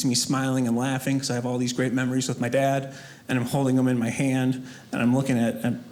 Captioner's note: none